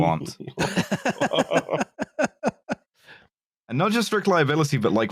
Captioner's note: laughter